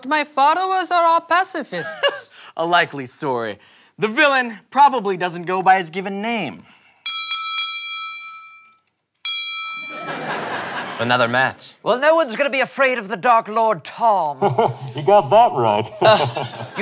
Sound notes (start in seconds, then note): 7.0 three dings; 9.2 ding